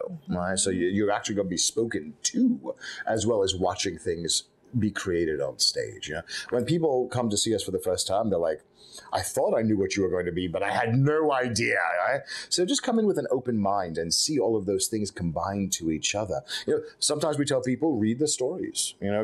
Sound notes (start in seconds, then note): none